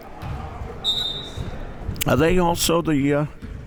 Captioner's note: whistle tweeting